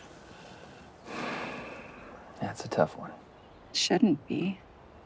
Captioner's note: sighs